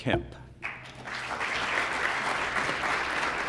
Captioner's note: applause